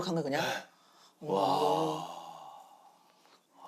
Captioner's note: exclaiming